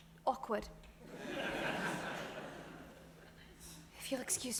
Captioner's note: audience laughs